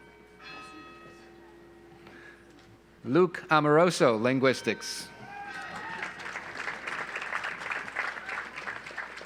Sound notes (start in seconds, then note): 5.4 audience applauds